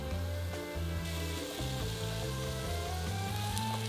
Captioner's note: sizzling